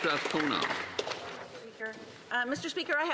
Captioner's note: applause